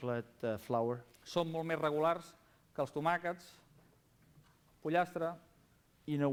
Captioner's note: non-english speech